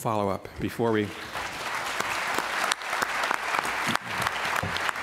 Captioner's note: applause